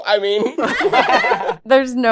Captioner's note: laughter